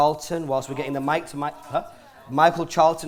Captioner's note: crowd murmuring